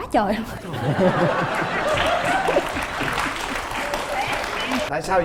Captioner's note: laughing and applause